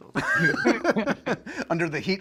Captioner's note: laughter